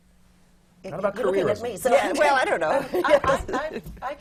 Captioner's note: laughs